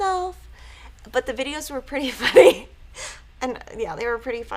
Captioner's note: chuckles